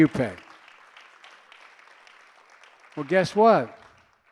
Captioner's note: applause